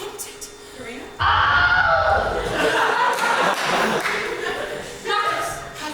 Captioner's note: Wilhelm Scream